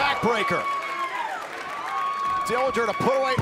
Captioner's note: crowd cheering